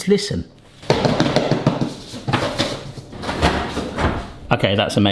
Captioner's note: bangs the bin